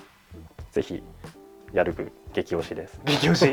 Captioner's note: laughs